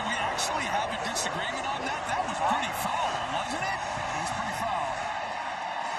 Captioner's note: booing